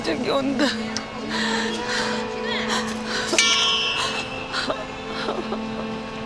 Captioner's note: panting, crying